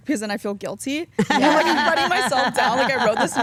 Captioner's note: Stephanie and Elyse laugh